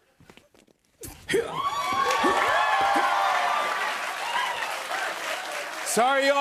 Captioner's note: grunting; cheers and applause